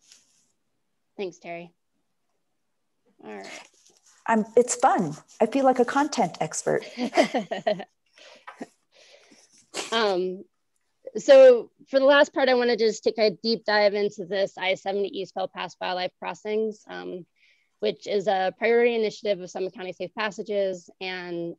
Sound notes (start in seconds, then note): 6.9 laughing